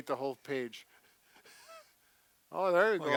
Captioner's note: laughs